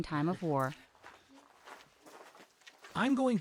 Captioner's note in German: Schritte